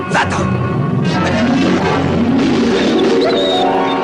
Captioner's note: whining